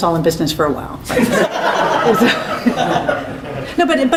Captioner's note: laughter